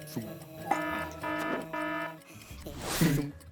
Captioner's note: alarm blaring; clock ticking